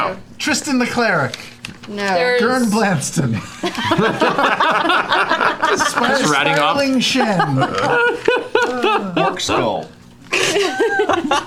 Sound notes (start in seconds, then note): 3.4 laughter